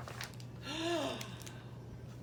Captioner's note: gasp